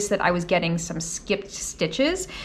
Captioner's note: none